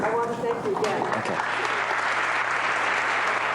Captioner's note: applause